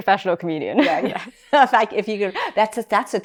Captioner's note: laughs